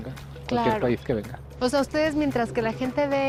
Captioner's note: speaking Spanish